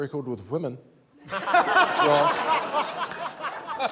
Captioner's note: laughter